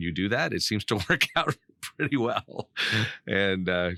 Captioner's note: laughing